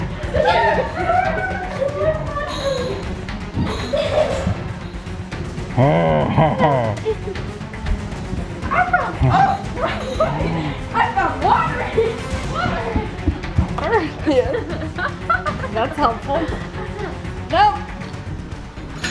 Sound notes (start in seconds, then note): 0.9 screaming; 5.7 neighbor growling